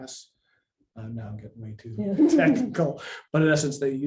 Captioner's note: laughs